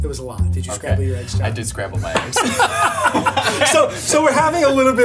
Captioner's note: both laugh